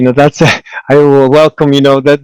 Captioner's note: chuckles